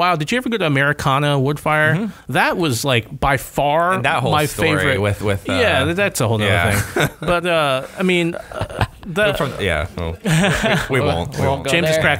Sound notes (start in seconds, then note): 6.8 laughter; 10.7 chuckles